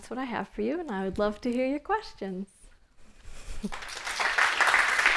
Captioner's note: clapping